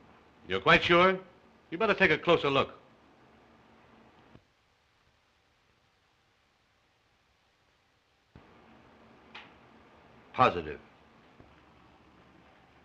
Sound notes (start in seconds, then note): none